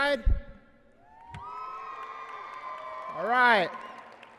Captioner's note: applause and cheering